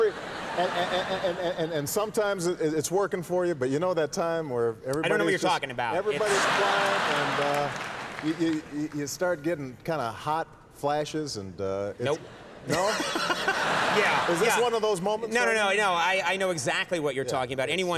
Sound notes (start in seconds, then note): 12.0 laughing